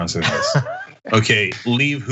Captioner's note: laugh